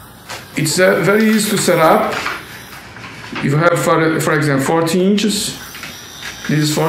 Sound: circular saw noise

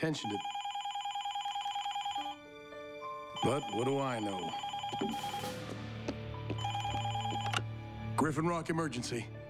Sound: telephone riinngg

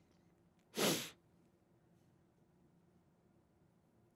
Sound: sniffing

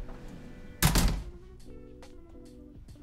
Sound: door closes

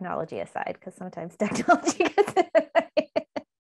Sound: laughs

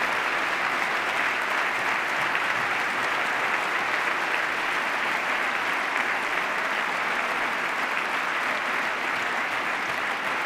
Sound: cheers, applause

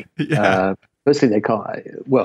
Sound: laughing

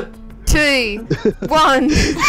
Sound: giggles; laughter

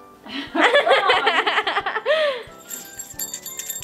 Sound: laughter; bell tinkling

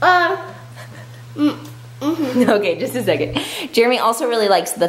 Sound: chuckles

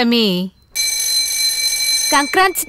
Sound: bell rings

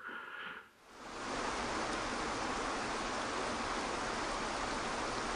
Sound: gentle water flowing

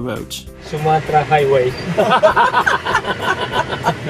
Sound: laugh

